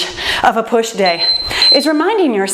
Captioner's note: timer beeps